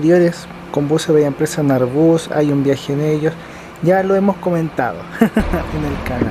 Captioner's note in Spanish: risas